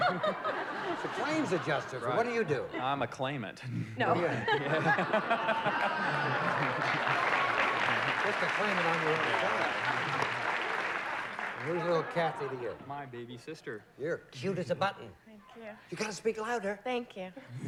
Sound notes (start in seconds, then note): 4.0 laughter; 5.6 applause